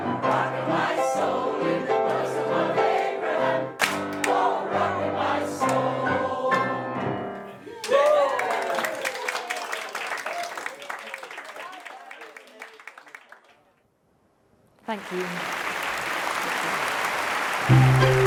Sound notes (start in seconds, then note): 3.7 all clapping; 7.6 choir cheering; 7.7 choir applauding; 14.8 audience applauding